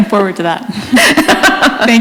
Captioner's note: laughter